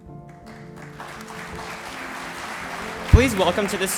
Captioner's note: audience applauds